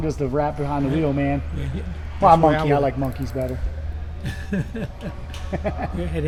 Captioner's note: both laughing